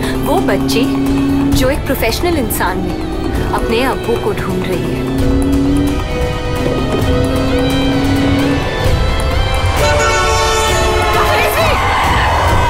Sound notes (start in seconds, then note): 5.2 Car speeding; 9.7 Car honking